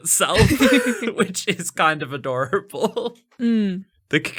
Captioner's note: laughing